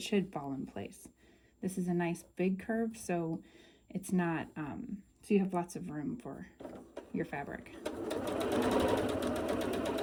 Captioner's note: sewing